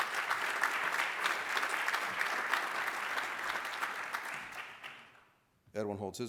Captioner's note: applause